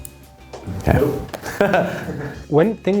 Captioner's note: laughs